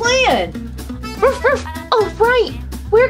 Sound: Skye barking

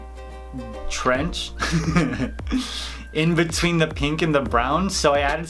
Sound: laughing

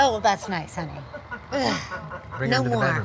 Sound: robot laughs

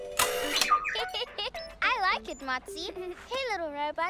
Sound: giggles

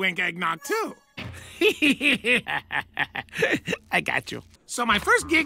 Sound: evil giggling

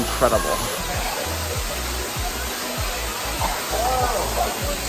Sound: water gushing

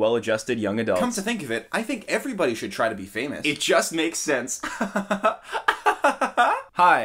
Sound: sarcastic Laughter

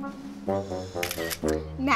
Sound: camera flashing

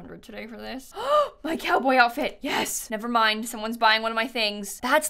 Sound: gasps

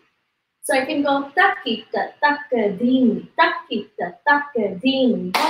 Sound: counts in foreign language

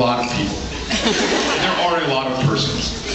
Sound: audience laughs

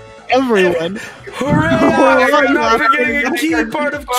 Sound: cracking up

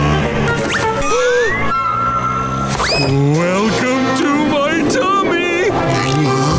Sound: gasping

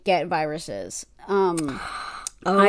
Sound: gasp

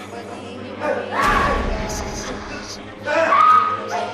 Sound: both screaming

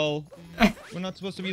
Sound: exhales in laugh

